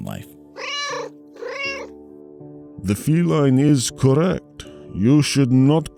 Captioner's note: meow